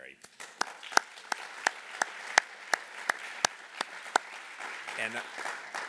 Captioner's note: applause